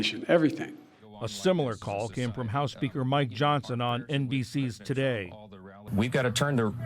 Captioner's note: voice-over